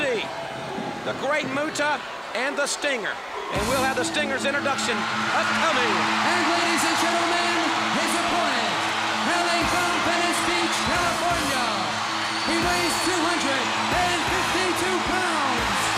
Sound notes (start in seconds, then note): 6.1 crowd cheering